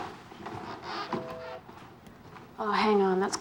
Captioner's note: floorboard creaking